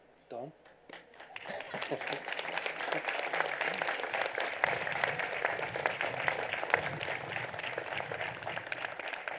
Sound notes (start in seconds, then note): 1.7 applause